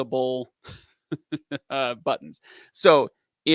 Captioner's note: laughs